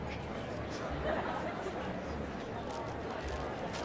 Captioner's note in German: Plaudern, Lachen